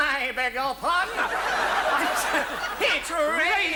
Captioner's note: audience laughs